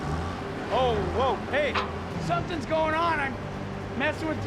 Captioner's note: rumbling